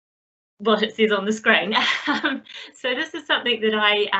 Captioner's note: laughs